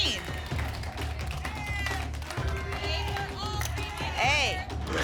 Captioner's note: audience shouting letters